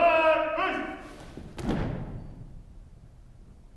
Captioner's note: boots stomping